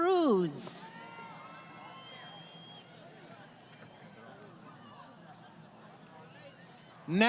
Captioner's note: crowd Cheering